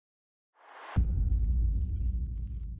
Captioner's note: booming